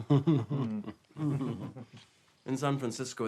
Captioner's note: laughs